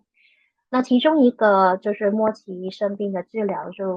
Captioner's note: speaking chinese